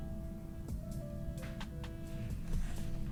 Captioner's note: none